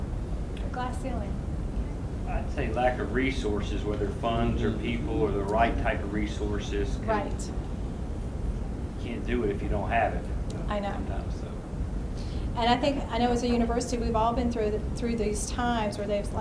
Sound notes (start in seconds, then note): 3.0 voiceover; 9.3 voiceover; 12.0 voiceover